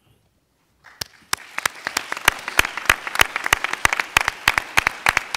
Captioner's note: applauding